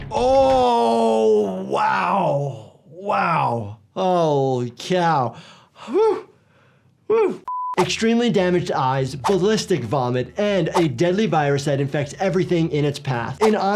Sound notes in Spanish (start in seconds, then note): 5.3 exhala